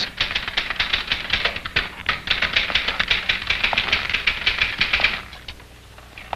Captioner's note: typing